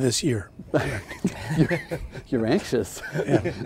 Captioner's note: laughing